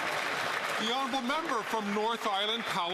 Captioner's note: some Applause